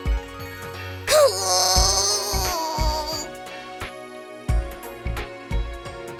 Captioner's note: hisssssss